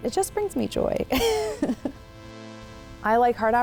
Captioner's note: laughs